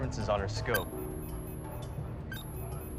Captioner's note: beeping